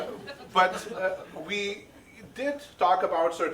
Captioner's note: audience laughing